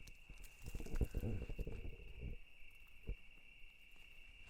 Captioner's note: crickets chirping